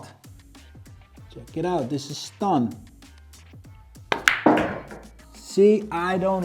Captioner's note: pool ball hitting